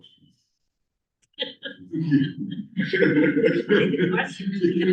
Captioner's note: laughter